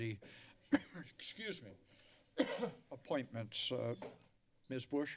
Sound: coughs

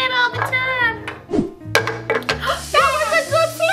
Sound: pancake swooshing

